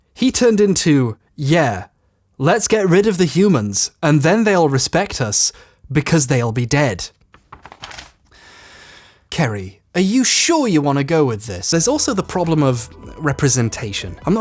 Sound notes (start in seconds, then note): 7.2 paper rustling; 8.3 inhales deeply